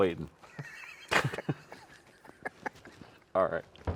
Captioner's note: laugh